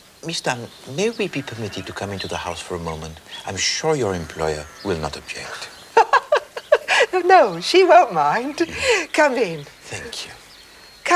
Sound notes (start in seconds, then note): 6.9 Laughs